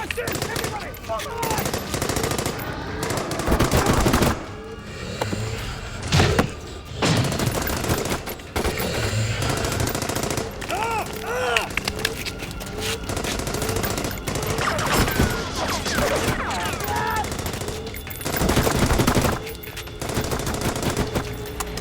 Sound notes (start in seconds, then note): 1.6 gunshots blasting; 6.0 gunshots blasting; 10.6 soldier groans; 12.5 gunshots blasting